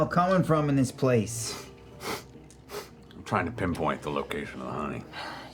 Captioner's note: sniffs